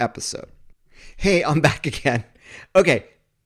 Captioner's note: laughs